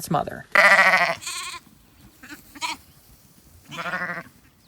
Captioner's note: sheep bleat